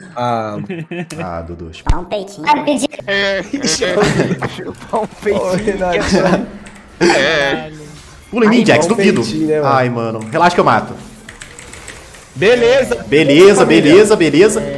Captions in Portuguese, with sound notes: ah Dudu, vai chupar um peitinho. [risos] Ó o Renatinho. Pula em mim, Jax. Dúvido. Ai mano. Relaxa que eu mato. Beleza, beleza, beleza.